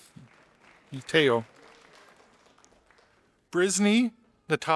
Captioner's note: audience applauding